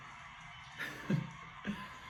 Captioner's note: giggles